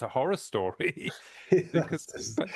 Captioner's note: both laughing